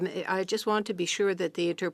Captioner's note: speaking French